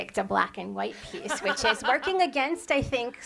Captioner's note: laughs